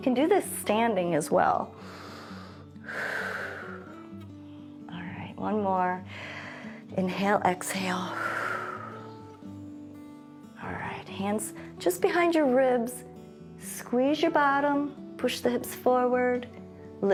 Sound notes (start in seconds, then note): 1.8 inhales and exhales; 6.3 inhales; 8.0 exhales